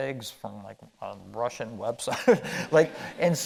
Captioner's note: chuckling